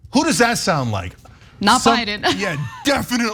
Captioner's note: laugh